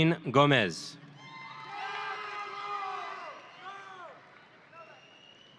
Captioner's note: audience cheering